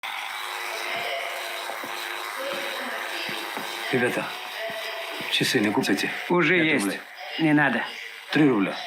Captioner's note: electric shaver sound